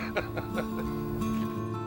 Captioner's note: laughter